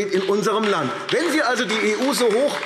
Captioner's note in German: Beifall AfD